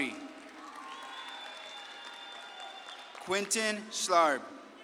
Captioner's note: audience claps and cheers